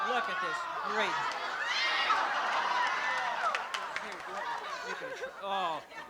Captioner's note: laughter